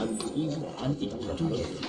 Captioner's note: beeping